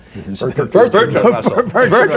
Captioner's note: laughter